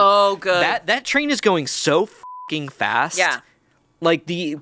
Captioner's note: beep